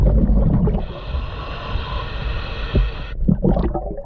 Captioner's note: breaths gurgling